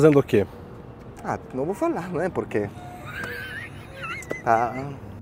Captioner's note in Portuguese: risos